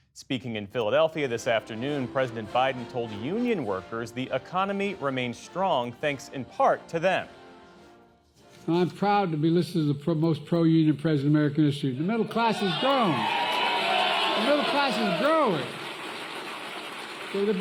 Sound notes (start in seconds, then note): 12.4 cheering